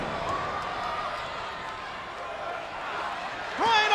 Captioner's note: spectators cheering